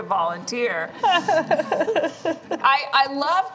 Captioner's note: laughter